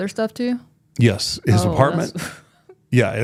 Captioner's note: laughs